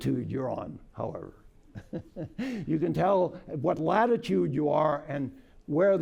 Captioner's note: laughter